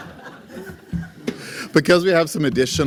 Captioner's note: laugher